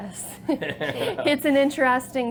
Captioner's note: laugh